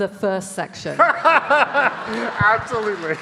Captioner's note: audience laughing